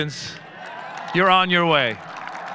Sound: audience cheering

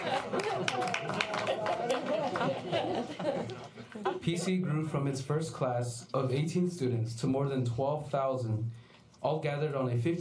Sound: applause; laughter

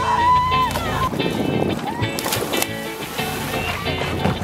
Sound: splashs

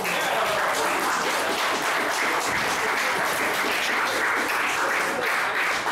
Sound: audience applauding

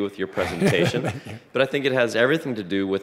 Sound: laughing

